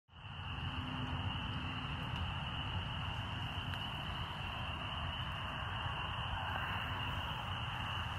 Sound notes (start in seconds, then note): 0.1 frogs croaking